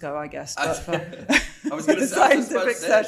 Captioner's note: both laughing